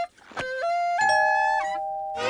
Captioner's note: doorbell ringing